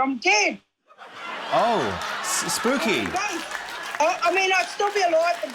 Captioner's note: laughter, applause